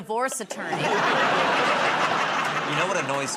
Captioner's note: laughter